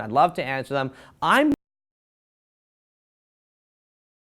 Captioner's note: missing audio